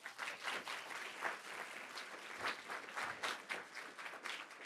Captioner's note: audience applauding